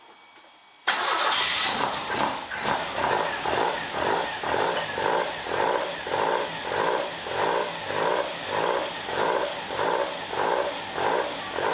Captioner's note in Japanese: エンジン音